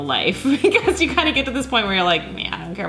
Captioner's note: laughing